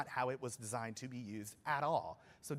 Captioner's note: none